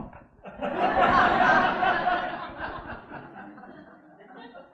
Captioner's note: audience laughing